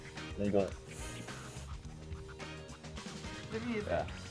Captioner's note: sniff